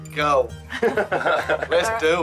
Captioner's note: lalaugughthterer